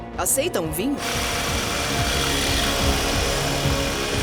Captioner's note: machine whirring